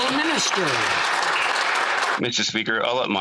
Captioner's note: some Applause